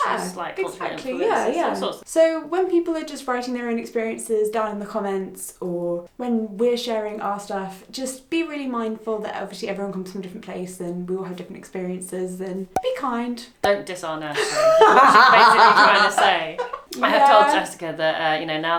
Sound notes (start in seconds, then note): 12.7 popping sound; 14.4 laughs